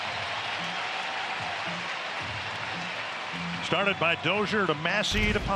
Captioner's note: cheers and applause